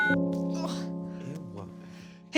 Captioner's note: phone beeps